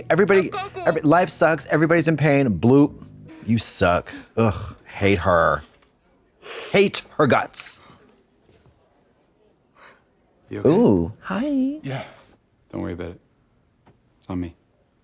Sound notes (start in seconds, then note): 2.6 Donny sobbing